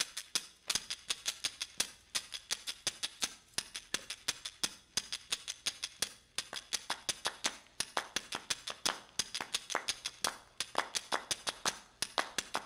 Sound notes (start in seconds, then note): 5.7 clap, clap, clap, clap